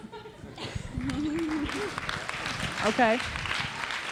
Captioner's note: audience applauds